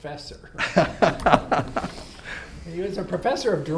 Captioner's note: laugh